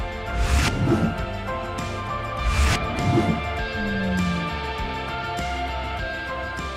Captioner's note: soft music; logo whooshing